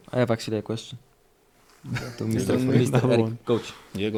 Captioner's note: all laugh